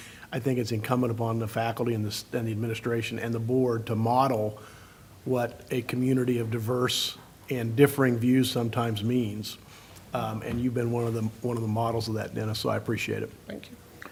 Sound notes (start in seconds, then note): none